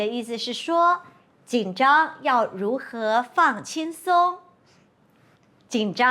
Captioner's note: in Mandarin